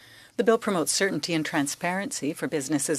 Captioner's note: speaking French